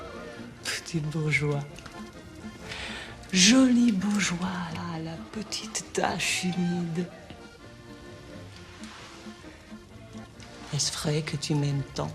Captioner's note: speaking french